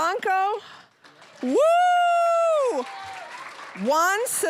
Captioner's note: cheering, applause